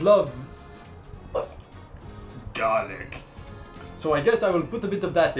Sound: gags

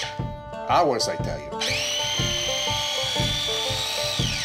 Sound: blender whirs

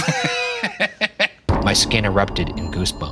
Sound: laughing

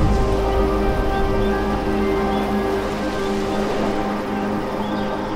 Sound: birds chirping

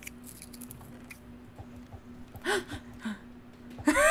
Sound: cat gasps in genuine fear

